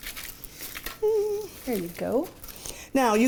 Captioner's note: hums